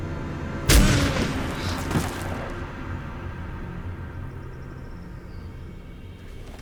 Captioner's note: gun firing; Tariq gasps